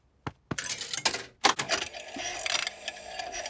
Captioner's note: clicks, whirring